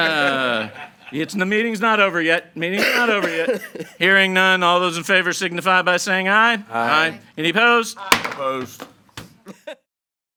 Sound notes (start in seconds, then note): 0.0 laughing; 9.4 laughing